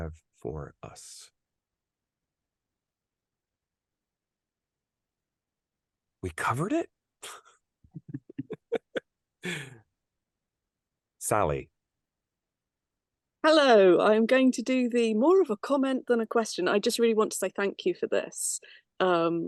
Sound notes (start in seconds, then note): 1.9 silence; 8.0 laughs